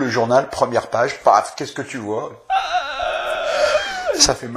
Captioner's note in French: gémissement